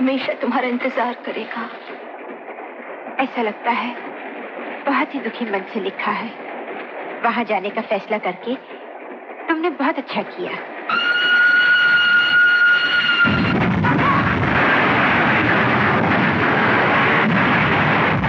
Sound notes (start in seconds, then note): 10.9 Train Horn Sounding; 15.8 Train Crash Sound